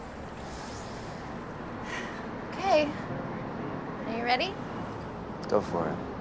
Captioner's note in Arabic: تنهدات